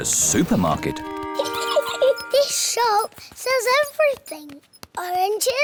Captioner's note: giggles